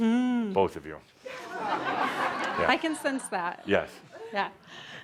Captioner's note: laughter